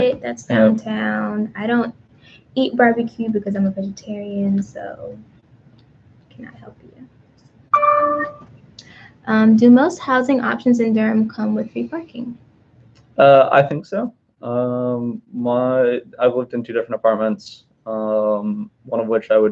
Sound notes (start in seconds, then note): 7.7 computer dings